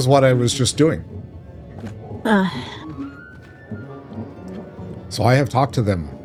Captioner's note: sigh